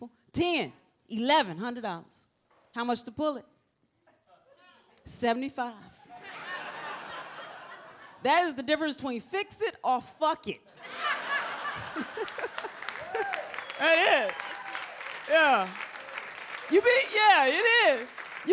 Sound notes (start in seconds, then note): 6.1 audience laughs; 10.7 audience laughs; 12.5 audience cheers